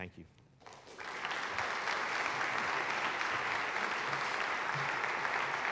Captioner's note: attendees applauding